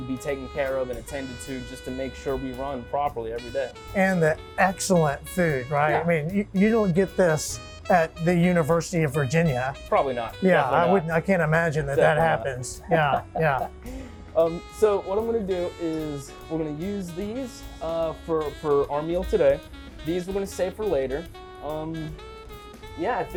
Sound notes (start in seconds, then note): 11.8 laughing